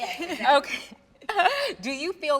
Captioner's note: laughing happily